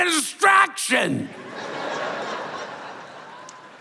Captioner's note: laughter